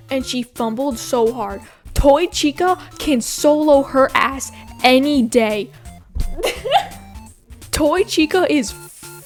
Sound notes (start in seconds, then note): 6.3 laughs